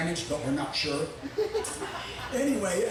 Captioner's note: audience chuckling